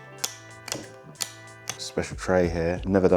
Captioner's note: glass clip clicking